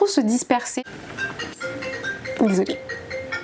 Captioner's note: phone rings